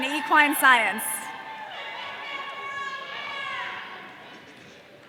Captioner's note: audience cheering